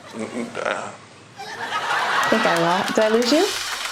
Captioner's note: laughter; applause